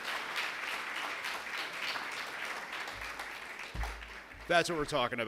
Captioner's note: applause